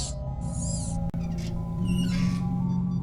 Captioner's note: lamp creaking